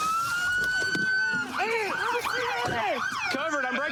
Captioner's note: shouting